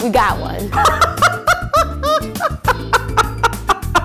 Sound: laughing

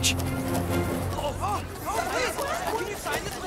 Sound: chatter

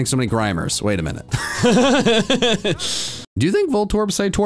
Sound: laugh

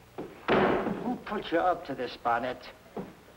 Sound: table slamming

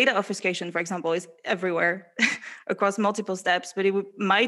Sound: laughs

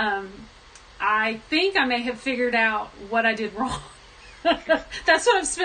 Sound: laughs

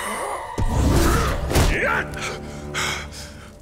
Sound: groaning; grunting

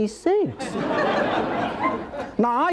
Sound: audience laughing

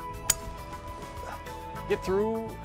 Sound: ping!

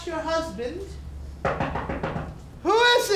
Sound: knocking

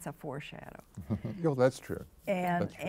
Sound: chuckles

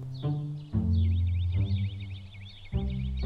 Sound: birds chirping

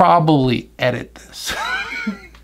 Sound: laughing

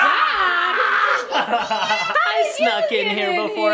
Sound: laughing

